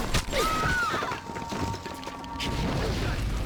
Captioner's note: screaming